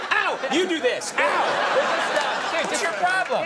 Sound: audience laughing

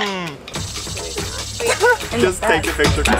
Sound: snake hisses

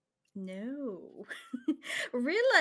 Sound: chuckles

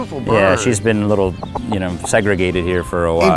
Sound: chicken clucking

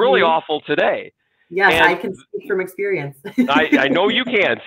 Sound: chuckles

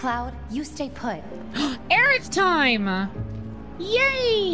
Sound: gasp

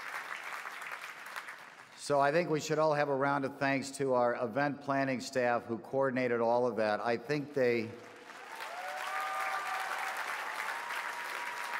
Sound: applause

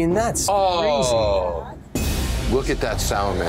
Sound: Jon groans

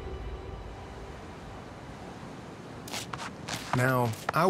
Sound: waves crashing

